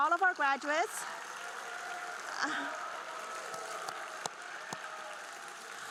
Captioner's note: group cheering and applauding